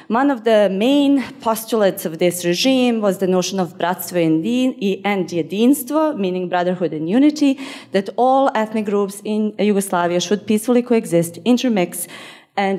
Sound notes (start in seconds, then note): 3.8 speaking in foreign language